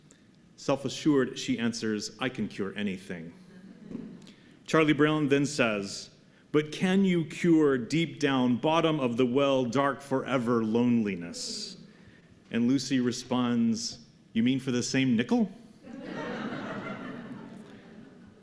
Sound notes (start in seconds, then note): 15.8 laughter